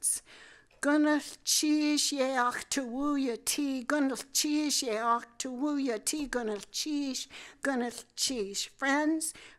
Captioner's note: speaking tlingit